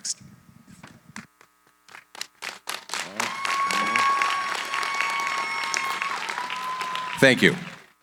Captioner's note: applause